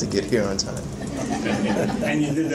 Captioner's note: crowd laughing joyfully